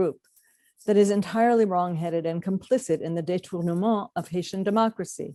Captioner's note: french